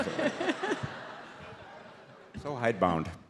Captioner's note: audience laughs